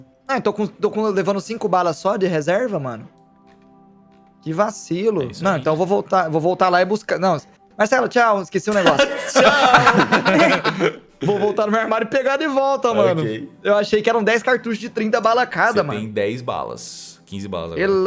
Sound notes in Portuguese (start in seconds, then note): 8.7 Risos